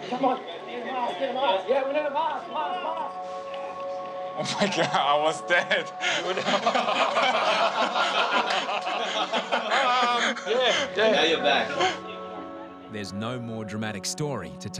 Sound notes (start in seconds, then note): 6.1 everyone laughs